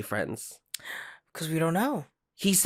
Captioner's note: gasp